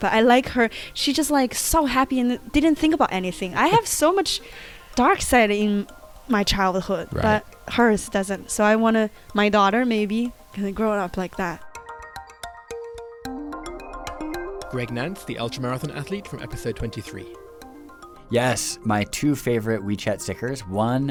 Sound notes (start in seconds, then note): 11.5 voiceover